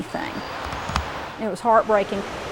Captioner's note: birds chirping